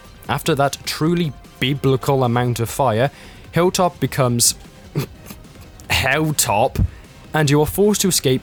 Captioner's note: chortle